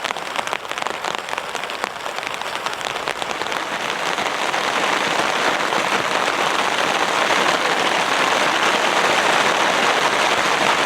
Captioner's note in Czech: Déšť padá